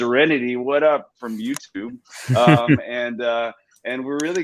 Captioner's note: laughs